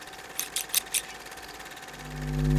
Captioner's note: flicking; cutting; buzzing